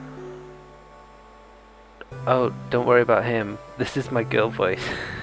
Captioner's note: this is my girl voice